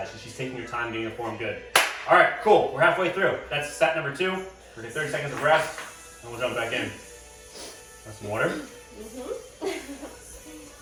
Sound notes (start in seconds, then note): 9.1 grunts in agreement; 9.4 chuckling